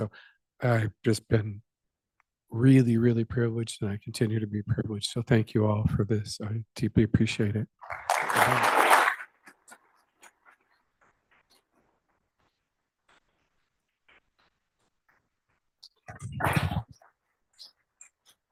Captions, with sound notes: So I've just been really, really privileged and I continue to be privileged. So thank you all for this. I deeply appreciate it. [APPLAUSE]